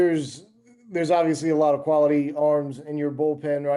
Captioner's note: male Voice